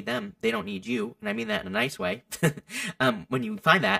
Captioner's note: chuckles